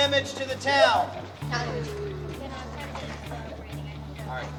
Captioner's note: indistinct chatter